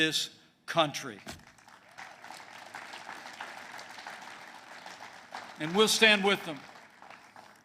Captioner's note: applause